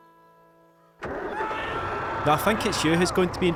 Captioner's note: A male voice screams in pain